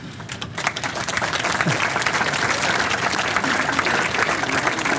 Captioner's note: audience applauds